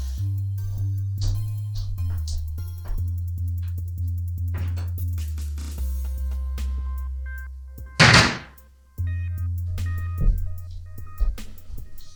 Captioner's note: walking away sounds, doors banging, walking back sounds